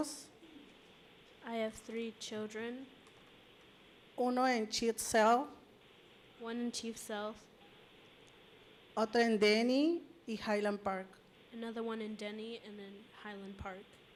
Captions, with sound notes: I have three children. [Spanish language] one at Chief Sealth [Spanish language] another one in Denny and then Highland Park